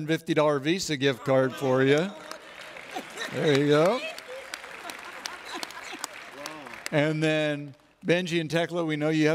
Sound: cheering

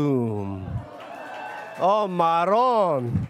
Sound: audience cheers

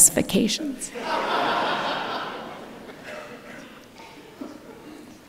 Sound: audience laughing

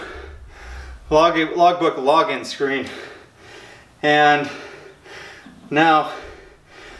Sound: breathing heavily

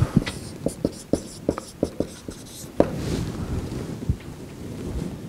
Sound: marker scribbling

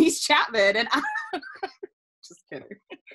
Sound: laughing

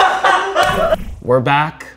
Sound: girls laughing

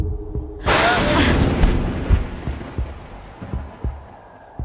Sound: lightening cracks

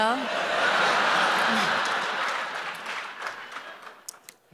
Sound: audience laughing

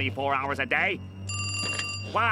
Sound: ringing

